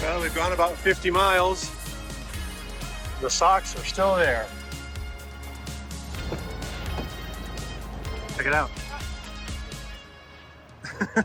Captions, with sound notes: Well they've gone about 50 miles. The socks are still there. Check it out. (laughs)